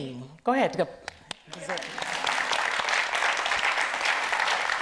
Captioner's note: audience applauds